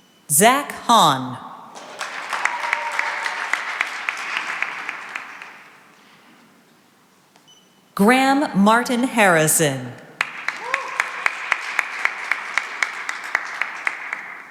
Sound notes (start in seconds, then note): 1.7 cheering and applause; 10.2 cheering and applause